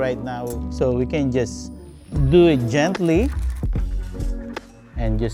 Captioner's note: paper crinkling